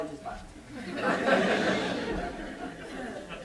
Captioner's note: laughter